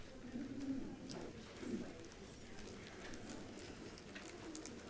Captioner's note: people chattering